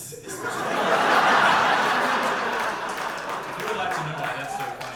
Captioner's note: audience laughter